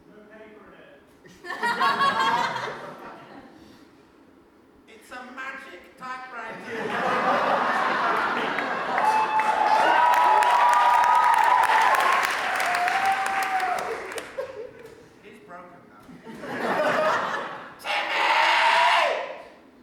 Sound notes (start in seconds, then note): 1.4 audience laughter; 8.9 audience cheers